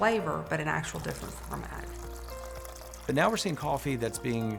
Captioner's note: coffee pouring